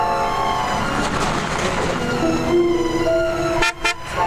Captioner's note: dramatic music; car engine revving; car horn honking